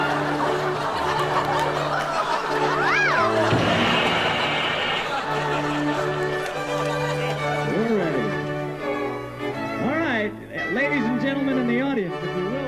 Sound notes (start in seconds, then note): 0.0 audience laughs; 2.8 boing; 2.8 crash